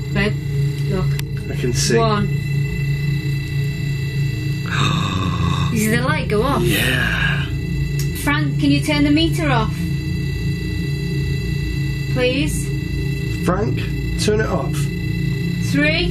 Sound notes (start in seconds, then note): 4.9 gasps